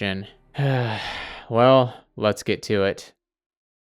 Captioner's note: sigh